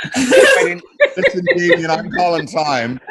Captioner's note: group laughs